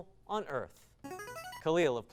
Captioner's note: device sound